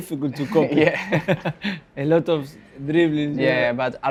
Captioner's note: chuckles